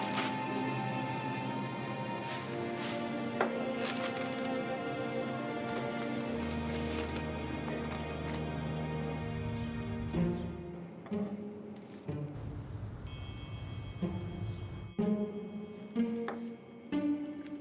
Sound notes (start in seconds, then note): 10.3 birds chirping; 11.2 gentle music